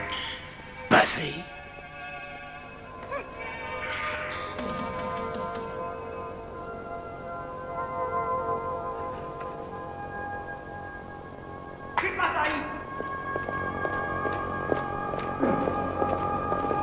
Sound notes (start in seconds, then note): 2.9 groans; 11.9 guard speaks Spanish